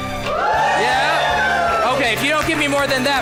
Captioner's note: cheer